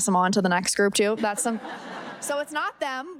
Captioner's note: audience laughing